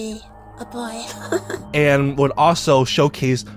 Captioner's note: chuckling